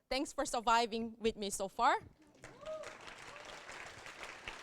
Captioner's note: applause and cheers